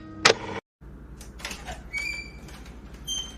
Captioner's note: door opens